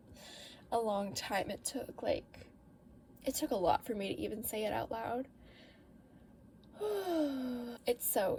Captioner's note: exhale